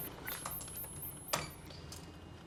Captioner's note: beep, beep